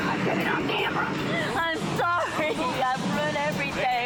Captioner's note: crying